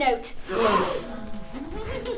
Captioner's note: gasp